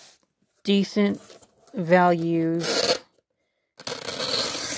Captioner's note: creak of tape peeled off